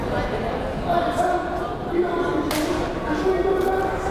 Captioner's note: crowd murmuring